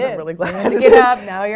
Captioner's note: laugh